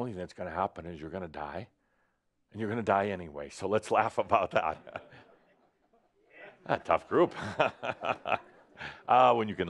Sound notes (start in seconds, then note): 7.1 chuckles again; 7.2 chuckles but no one else does